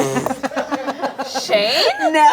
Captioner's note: all laughing